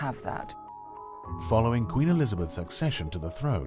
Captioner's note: voiceover